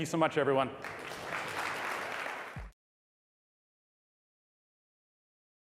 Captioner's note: applause